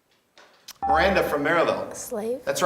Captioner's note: beeping